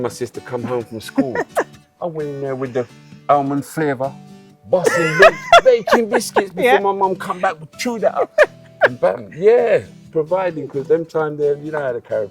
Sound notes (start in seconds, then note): 3.4 patois accent